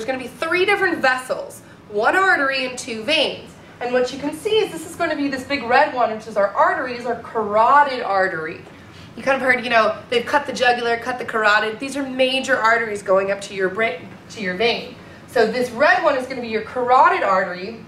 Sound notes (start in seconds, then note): none